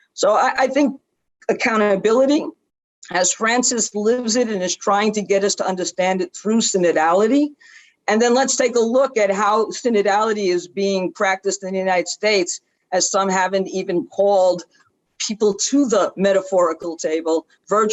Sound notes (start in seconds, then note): none